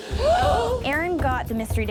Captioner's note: contestants gasping